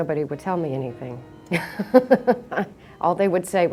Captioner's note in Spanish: Risas